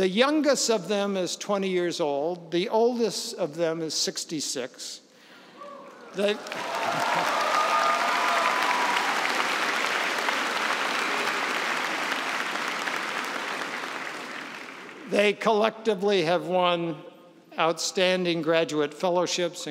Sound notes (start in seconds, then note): 6.7 cheers and applause